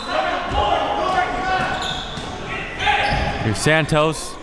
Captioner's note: audience chattering and yelling